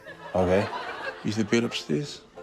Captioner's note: laughter